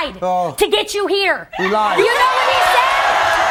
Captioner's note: audience laughing; audience cheering